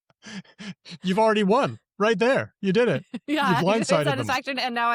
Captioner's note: laughs